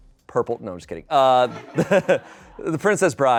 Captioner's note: laughs